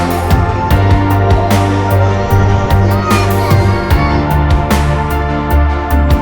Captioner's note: crying~